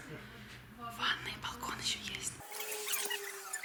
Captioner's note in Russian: шепотом